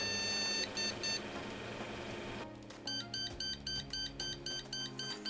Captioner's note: beeping